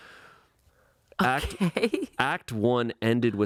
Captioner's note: laughs